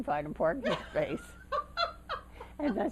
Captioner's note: laughter